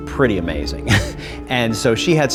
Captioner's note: chuckle